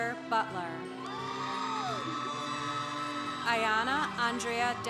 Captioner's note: congregation applauding